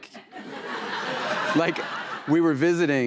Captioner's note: laughter